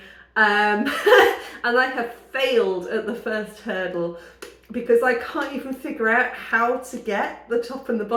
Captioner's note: laughing